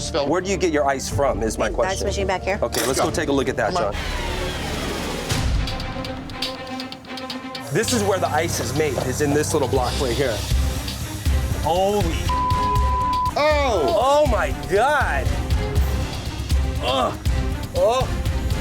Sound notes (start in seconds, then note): 4.3 dramatic music; 12.2 beep; 15.6 dramatic music